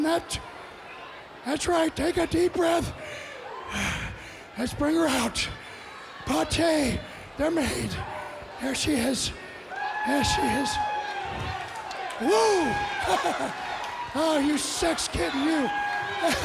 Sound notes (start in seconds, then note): 11.1 audience cheers; 12.2 chuckles